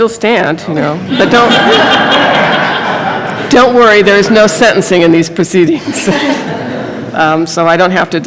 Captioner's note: laughter